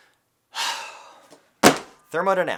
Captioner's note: exhales deeply